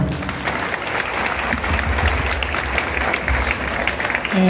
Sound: cheers and Applause

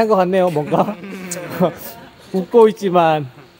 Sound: he just laughs

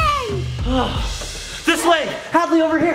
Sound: drum beating; dad panting

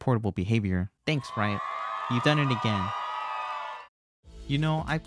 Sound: crowd applauses

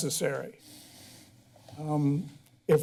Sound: pause

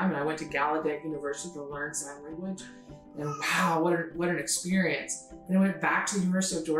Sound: exclaims

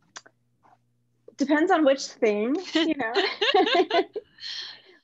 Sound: laughs

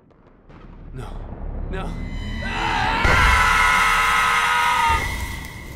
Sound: screaming

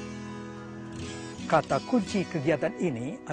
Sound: non-english speech

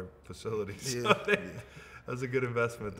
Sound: laughs

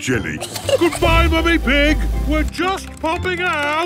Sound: giggles

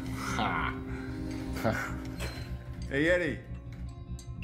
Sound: guys laughing

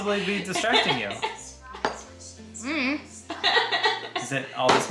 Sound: laughing

